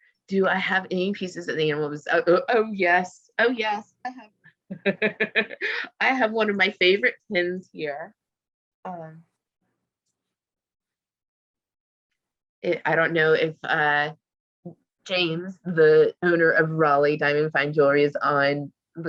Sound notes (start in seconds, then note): 4.7 laughs